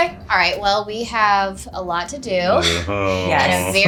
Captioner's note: laughing